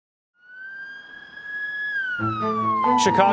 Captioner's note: sirens sounding